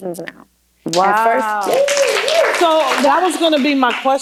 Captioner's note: applause